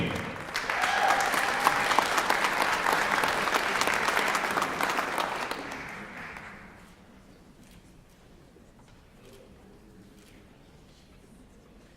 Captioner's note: applause